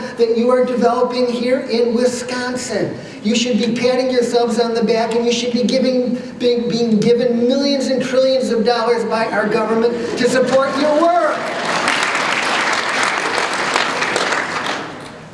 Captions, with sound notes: that you are developing here in Wisconsin. You should be patting yourselves on the back, and you should be giving -- being given millions and trillions of dollars by our government [laughter] to support your work! [ Applause ]